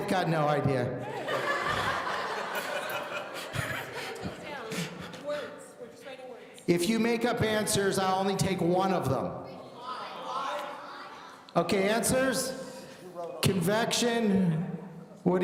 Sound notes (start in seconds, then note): 1.0 audience laughing; 9.8 audience shouting